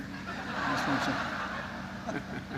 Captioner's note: laughter